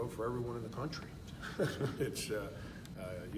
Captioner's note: laughs